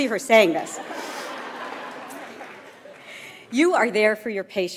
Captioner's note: audience laughs